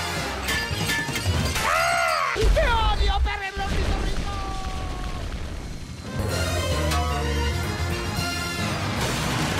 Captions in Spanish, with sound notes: *grita* ¡TE ODIO, PERRY EL ORNITORRINCO!